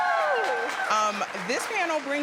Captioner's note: applause